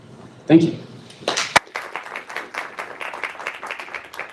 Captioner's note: applause